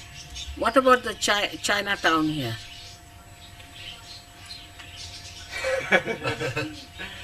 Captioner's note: laughter